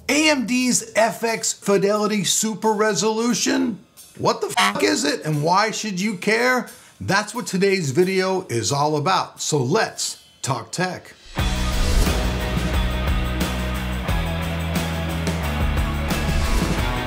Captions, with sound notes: - AMD's FX Fidelity Super Resolution. What the (beep) is it and why should you care? That's what today's video is all about. So, let's talk tech. (upbeat music)